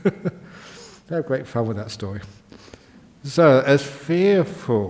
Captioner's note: Ajahn laughs